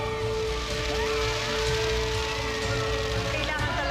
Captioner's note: crowd cheering; suspenseful music playing